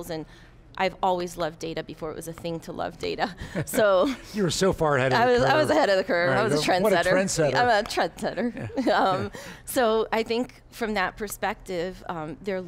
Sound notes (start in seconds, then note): 3.4 chuckles; 8.4 chuckles